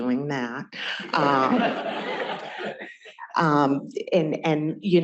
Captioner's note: laughter